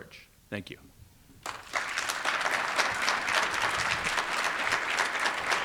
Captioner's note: audience applauding